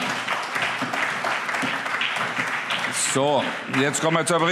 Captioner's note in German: Allgemeiner Beifall